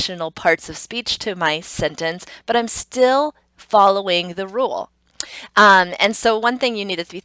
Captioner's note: tongue clicks